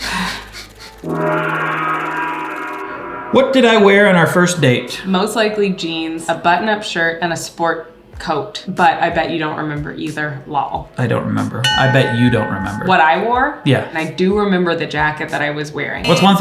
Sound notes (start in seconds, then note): 1.0 gong rings